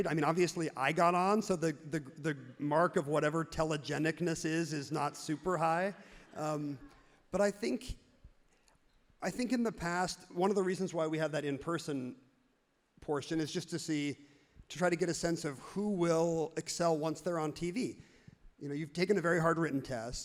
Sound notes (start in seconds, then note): none